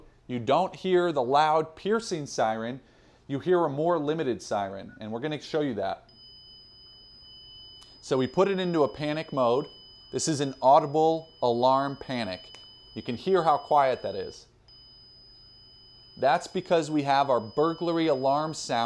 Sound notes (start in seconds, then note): 7.1 tone